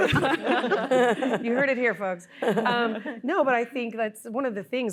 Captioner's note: laughter